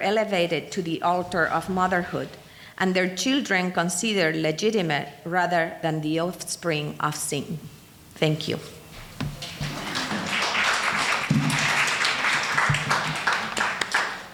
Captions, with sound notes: elevated to the altar of motherhood and their children considered legitimate, rather than the offspring of sin. Thank you. (applause)